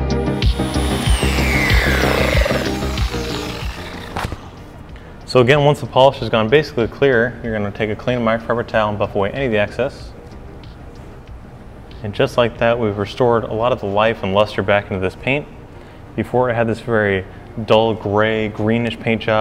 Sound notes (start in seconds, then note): 0.1 15DA whirring